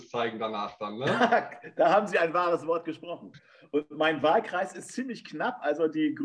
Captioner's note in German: Lacht